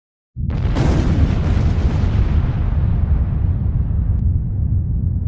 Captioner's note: booming explosion